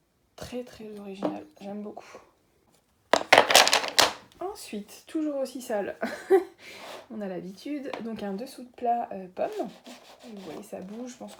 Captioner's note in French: rires